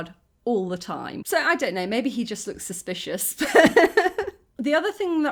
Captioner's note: laughing